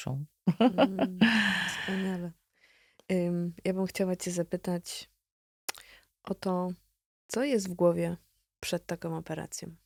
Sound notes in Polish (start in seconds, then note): 0.5 śmiech; 1.2 wciągnięcie powietrza